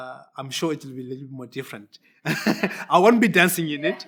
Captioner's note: laughs